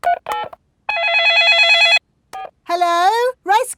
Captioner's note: dialing; cell phone ringing